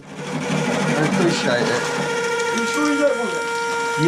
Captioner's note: tap grinding loudly